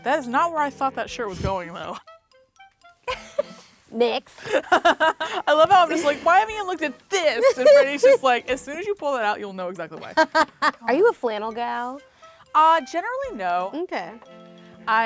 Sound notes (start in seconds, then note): 3.0 laughing; 10.5 laughs